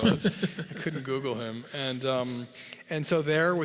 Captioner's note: laugh